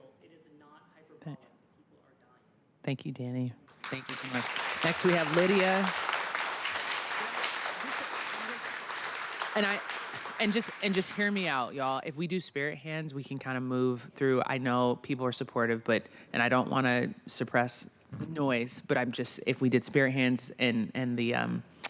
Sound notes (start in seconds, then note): 8.5 applause